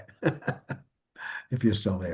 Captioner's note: laughs